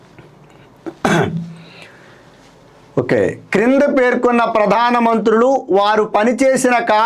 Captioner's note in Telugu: గొంతు సవరించుకోవడం